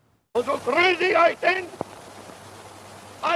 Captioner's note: speaking German